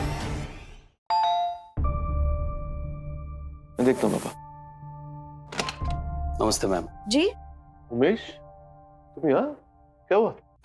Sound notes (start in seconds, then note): 1.1 doorbell rings; 5.4 door opens